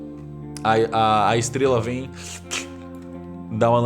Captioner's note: slurp